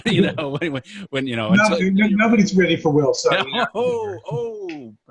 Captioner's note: laughs; laughinig